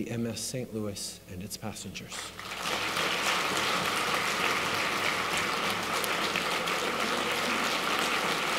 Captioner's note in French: Applaudissements